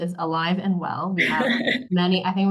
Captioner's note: laughs